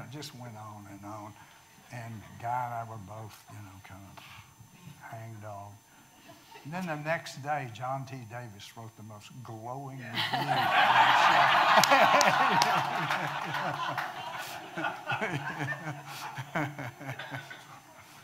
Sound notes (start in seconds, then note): 10.1 audience laughing